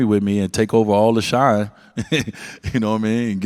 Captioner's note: laughs